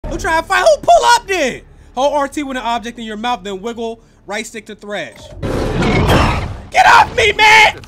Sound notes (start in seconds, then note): 5.5 animal roars